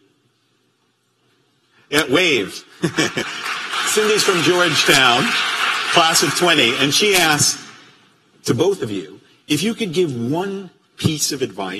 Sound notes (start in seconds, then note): 1.1 applause